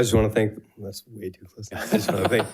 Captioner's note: members laughs